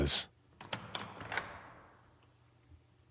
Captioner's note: door opens